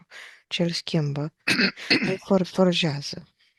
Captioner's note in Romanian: voce dreasă